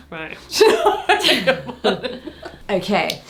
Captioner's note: laughing